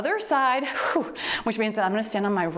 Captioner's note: exhales deeply